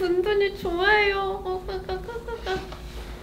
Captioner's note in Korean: 예뻐하는 소리